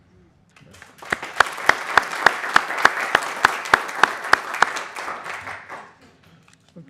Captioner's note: applause